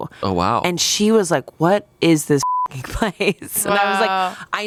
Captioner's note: beep